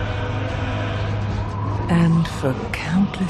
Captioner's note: chanting